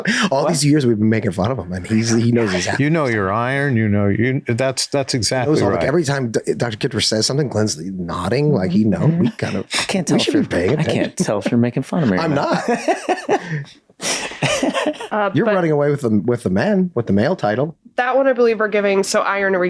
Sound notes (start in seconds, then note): 14.0 Glenn laughs